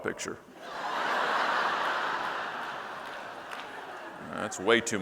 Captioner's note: audience laughing